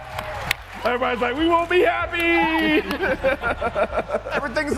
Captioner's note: audience yelling